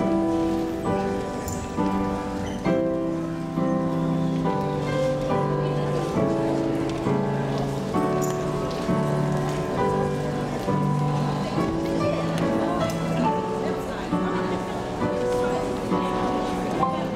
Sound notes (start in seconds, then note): 0.7 audience buzzing